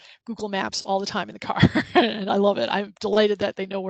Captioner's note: laughs